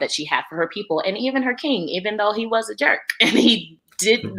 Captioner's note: laughs